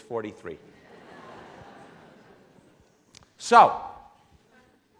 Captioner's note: laughing